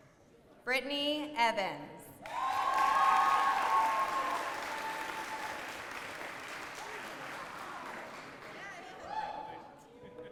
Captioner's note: applause